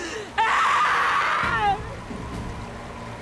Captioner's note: screams